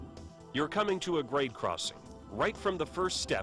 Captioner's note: voiceover